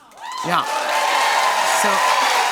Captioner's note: cheers and applause